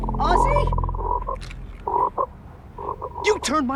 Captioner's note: toad croaking